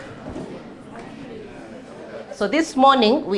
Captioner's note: students murmuring and shuffling